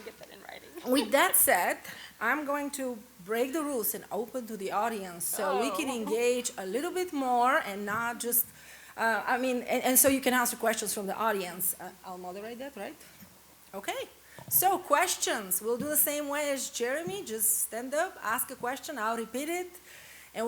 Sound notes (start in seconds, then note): 5.3 laughs